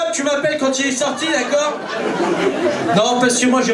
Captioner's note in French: rires public